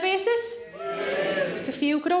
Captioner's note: audience cheers